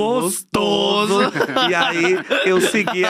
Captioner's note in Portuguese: risos